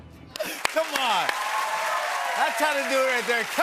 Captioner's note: cheers and applause